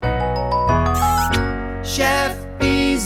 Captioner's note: lively music playing; kiss sound